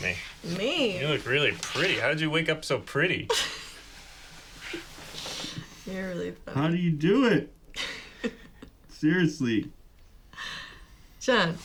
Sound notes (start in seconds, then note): 3.2 chuckles; 7.8 laughs